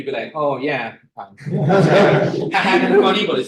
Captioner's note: laughter